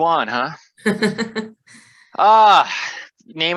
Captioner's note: laughs